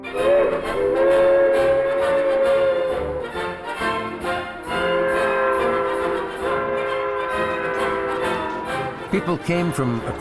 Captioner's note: train whistle